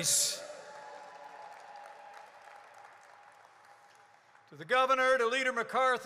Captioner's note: applause